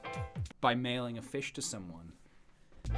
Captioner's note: sarcastically